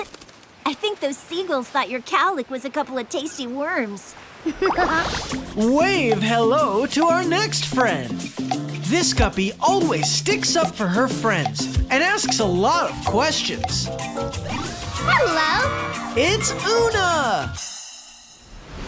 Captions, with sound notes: I think those seagulls thought your cowlick was a couple of tasty worms. [laughing] Wave hello to our next friend. This guppy always sticks up for her friends and asks a lot of questions. Hello. It's Oona.